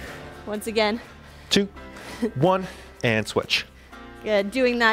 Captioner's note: upbeat music; panting